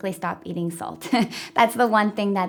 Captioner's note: laughing